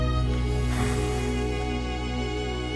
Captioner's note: sigh